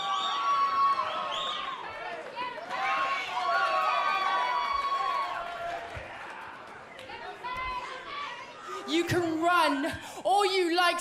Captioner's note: crowd cheering